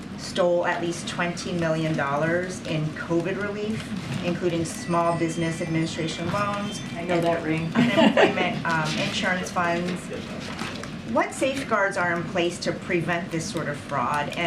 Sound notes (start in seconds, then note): 4.7 A cellphone rings; 7.7 laughter